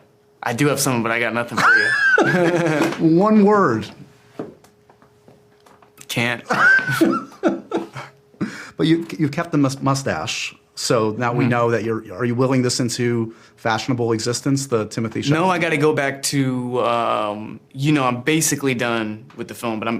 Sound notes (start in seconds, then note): 6.5 laughs